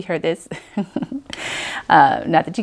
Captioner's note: laughs